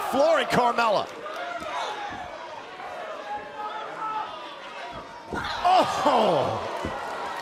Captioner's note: crowd cheering; crowd cheering